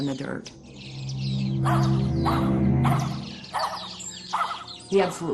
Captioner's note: dog barking